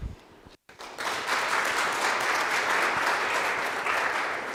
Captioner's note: audience applauds